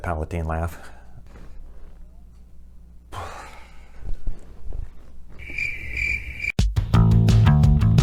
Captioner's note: breath; crickets